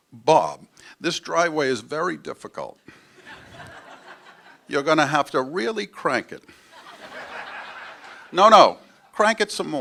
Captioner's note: laugher